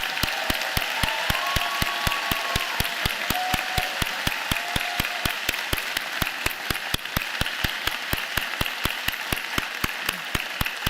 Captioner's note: cheers and Applause